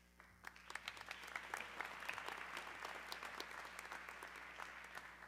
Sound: audience clapping

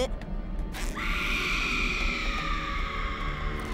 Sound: screaming

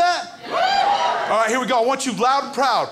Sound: crowd cheers

